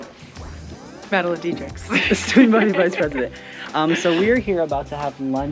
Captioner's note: laugh